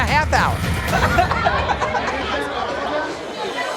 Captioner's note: laughter, chatter